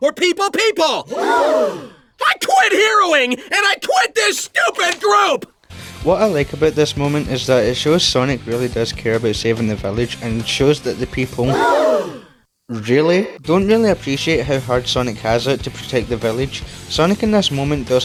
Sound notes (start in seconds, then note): 3.3 gasp; 11.6 gasp